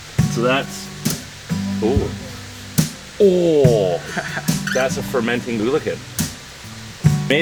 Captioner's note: ohhhhhh